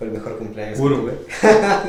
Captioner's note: laughs